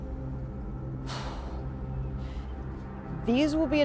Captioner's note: sighing